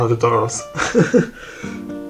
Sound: laughter

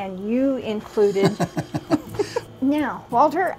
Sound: chuckles

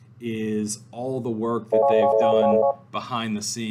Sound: phone rings

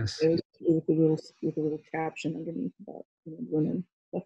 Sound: murmurs

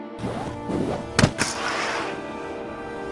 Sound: clicks

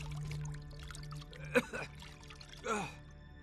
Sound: cough

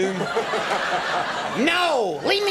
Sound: audience laughing

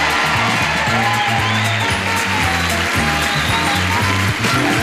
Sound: audience applauds; upbeat music

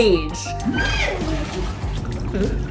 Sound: background music; water splashing noises; sea otter vocalizations; background music

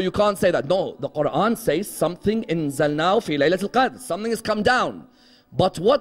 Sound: Arabic

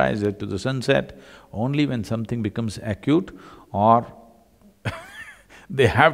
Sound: laughs

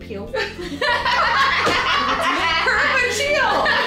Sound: both laughing

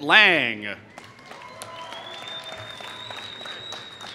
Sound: applause

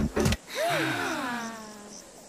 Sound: campers Sighing

